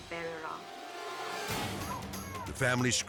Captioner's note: suspenseful music; people screaming